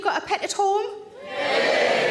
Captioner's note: audience cheering